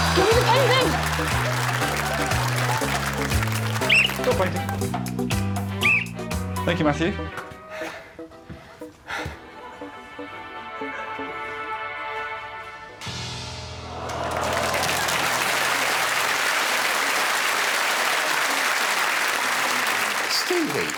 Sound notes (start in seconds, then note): 5.7 blows whistle; 7.6 pants